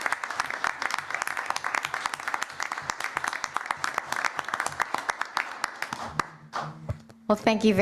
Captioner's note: applause